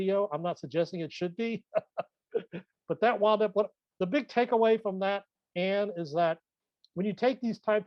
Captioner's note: laughs